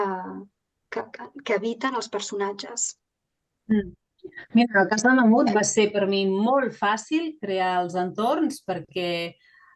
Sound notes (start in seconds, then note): 4.6 speaking in Catalan